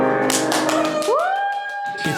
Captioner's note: person applauding